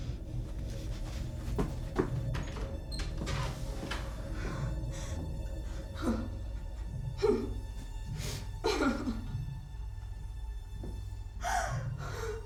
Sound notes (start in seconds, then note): 0.4 feet pattering; 2.4 door squeaking; 6.1 Dorothy whimpering; 8.8 Dorothy sobbing